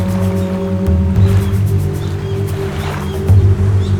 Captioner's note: bird squawking